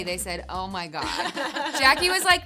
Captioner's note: laughing